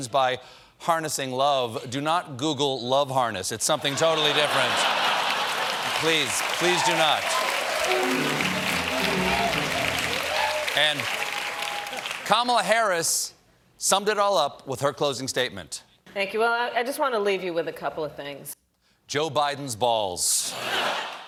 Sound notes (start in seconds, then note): 9.6 cheers and applause; 9.6 piano riff